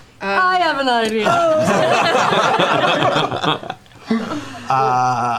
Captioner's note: laughter